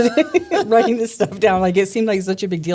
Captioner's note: laughing